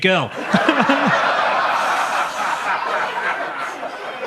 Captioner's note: audience laughs